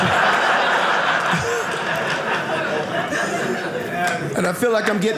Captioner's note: audience laughing